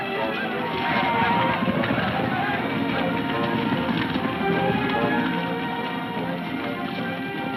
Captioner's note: men shouting; hooves thudding